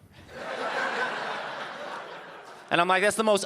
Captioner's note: audience laughing